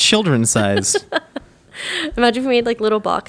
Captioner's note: laughing